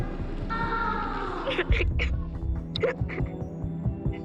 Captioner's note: crying